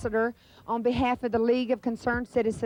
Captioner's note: none